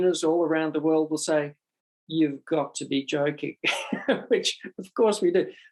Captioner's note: laughs